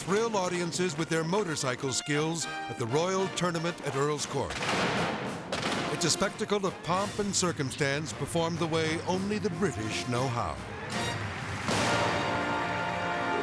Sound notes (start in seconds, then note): 4.6 explosion booming; 11.4 orchestral music